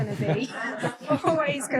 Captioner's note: audience laughing